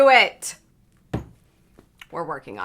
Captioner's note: hand thumps